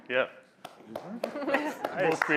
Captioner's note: applause